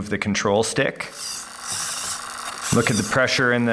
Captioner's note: mechanical whirring